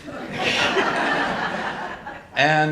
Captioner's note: audience laughing